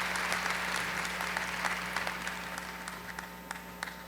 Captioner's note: applause